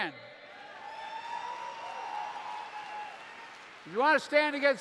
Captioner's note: applause